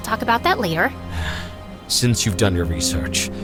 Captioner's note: sigh